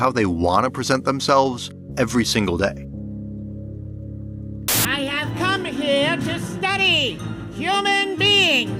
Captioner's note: alien voice: “I have come to study… human BEINGS”